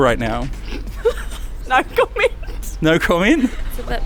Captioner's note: laughs